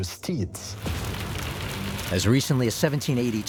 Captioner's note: sound of flames